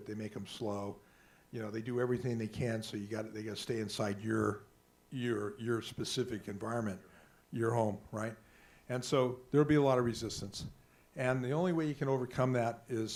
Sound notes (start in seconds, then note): none